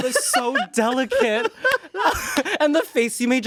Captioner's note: everyone laughs